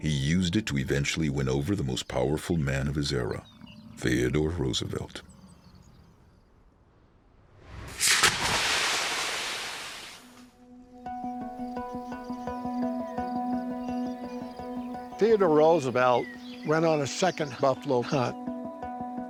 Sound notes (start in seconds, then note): 7.9 brand sizzling